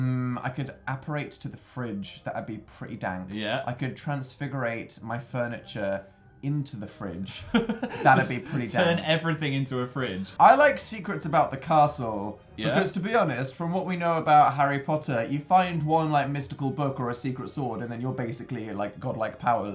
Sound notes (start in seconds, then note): 7.3 chuckles